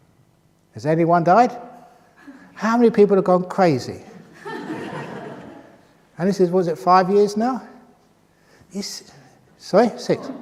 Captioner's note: laughter